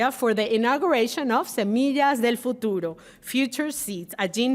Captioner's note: speaking Spanish